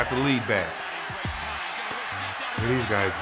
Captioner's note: fans cheering